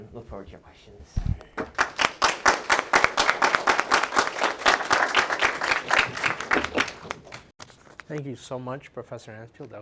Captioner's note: applause